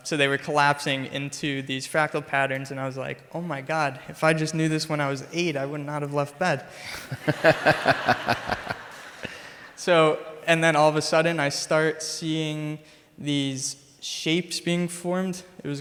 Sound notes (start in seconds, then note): 6.6 crowd laughs; 6.7 Dr. Dispenza laughs